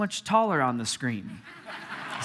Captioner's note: congregation laughing